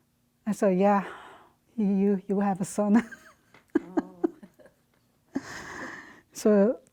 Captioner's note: laughs